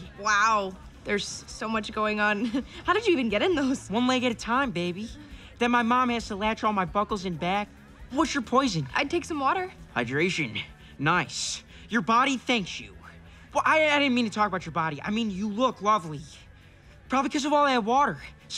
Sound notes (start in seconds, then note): 2.3 chuckles